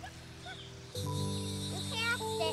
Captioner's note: reel buzzes